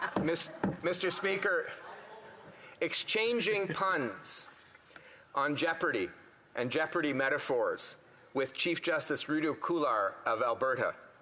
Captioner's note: some Laughter